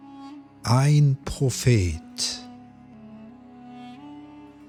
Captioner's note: german